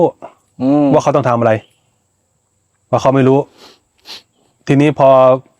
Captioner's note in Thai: เสียงสูดหายใจ